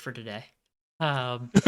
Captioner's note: laughs